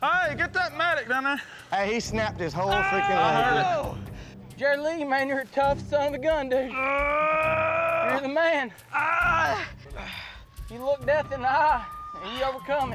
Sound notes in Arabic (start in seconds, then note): 2.6 يصرخ; 6.6 يصرخ